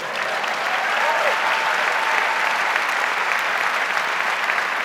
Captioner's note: audience applauds